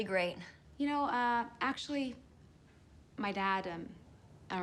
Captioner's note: none